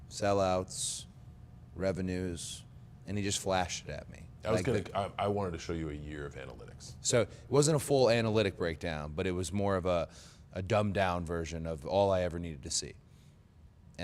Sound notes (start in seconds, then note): none